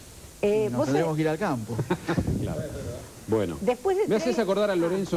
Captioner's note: laughs